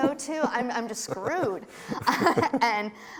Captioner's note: laughs